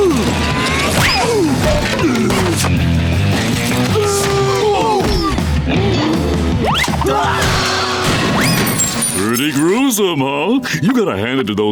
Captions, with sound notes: [screaming] [gasping] [screaming] Pretty gruesome, huh? You gotta hand it to those guys!